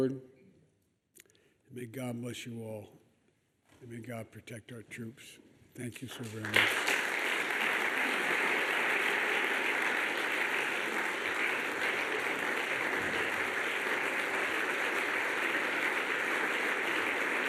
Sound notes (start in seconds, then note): 12.6 applause